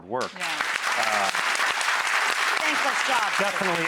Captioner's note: applause